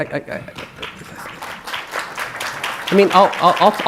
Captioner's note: audience clapping